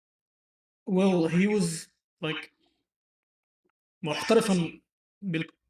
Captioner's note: Arabic